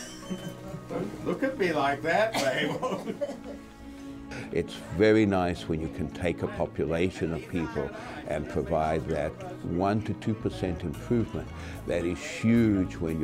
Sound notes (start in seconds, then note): 2.6 laughs